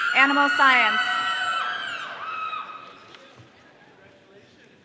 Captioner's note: audience cheering